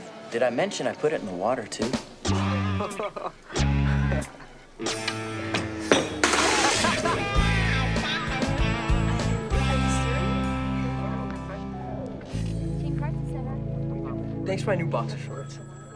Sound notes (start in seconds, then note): 2.3 laughing; 6.3 spitting; 9.3 phone ringing